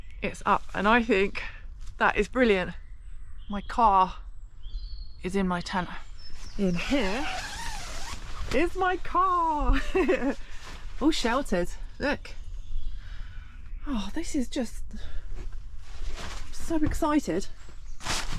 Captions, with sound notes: it's up and I think that is brilliant my car is in my tent in here *zipper* is my car! *chuckles* all sheltered, look uh this is just.. I'm so excited